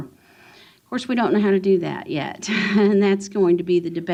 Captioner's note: chuckles